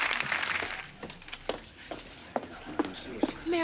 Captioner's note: people chattering